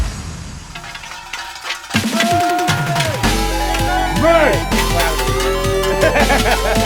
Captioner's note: metal clangs; crowd cheering